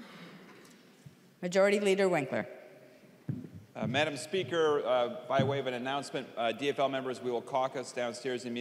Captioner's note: gavel